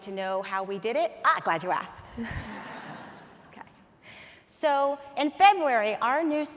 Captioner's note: audience laughs